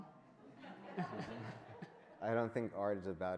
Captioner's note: audience laughs